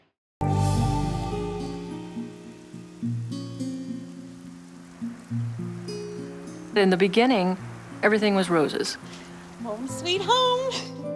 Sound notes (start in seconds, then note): 0.3 eerie music; 1.9 gentle music; 1.9 rain pattering; 10.3 laughs